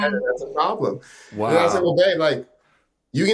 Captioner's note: voice engulfed by chuckles